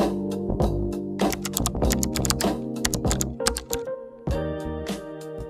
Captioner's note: clicking keyboard typing